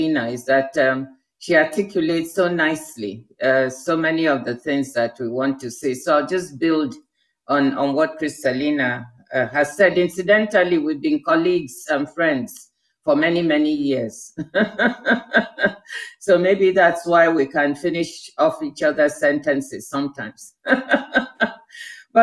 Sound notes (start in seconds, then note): 14.4 laughs; 20.5 laughs